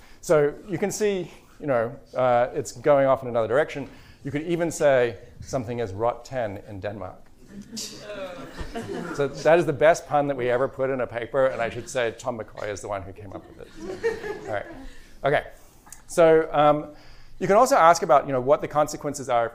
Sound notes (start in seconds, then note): 7.5 laughter, groans